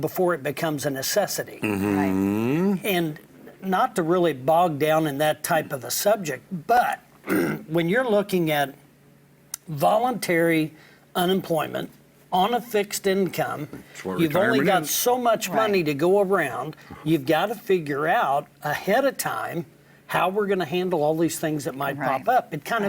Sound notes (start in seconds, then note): 7.2 clears throat